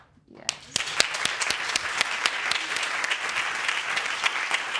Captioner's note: audience applauding